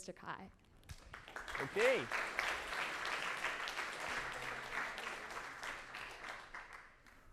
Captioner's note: audience applauds